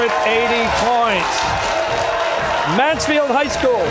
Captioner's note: cheers and applause